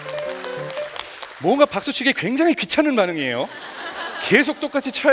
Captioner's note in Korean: 웃음